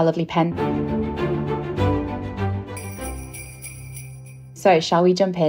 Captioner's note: theme music; bell ringing